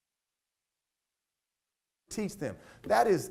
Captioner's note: audio cuts out